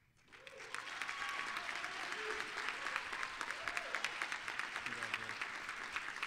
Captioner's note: applause, cheering